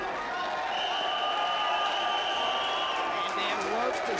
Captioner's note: crowd cheering; whistle blowing